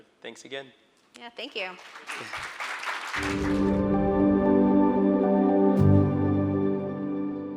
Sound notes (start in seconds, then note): 1.5 audience applauding; 3.6 light music